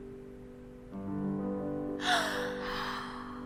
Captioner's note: gasp